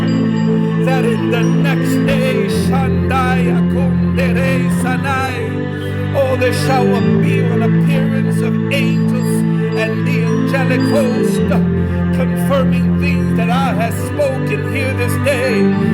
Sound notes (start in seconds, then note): 2.6 hablando en lenguaje espiritual